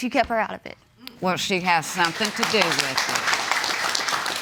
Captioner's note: audience applauding